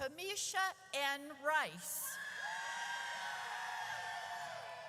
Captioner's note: audience cheers